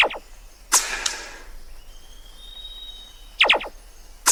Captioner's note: gun blasts; shot clanks; gun blasts